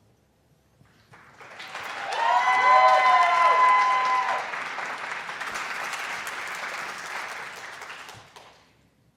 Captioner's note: audience applauds and hoots